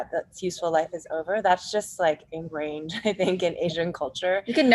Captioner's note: laughs